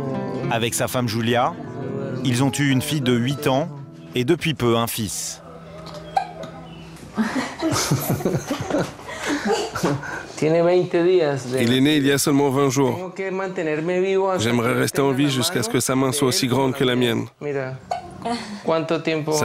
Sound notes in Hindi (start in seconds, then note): 7.0 हँसते हुए; 10.2 स्पैनिश बोलते हुए